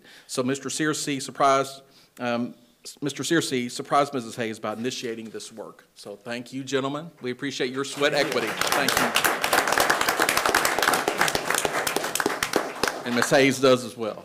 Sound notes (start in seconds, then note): 7.9 attendees applauding